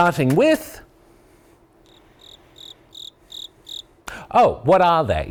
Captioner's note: crickets chirp